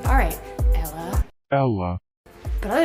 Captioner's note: robotic Voice